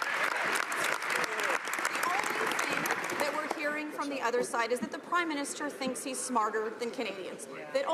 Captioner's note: some Applause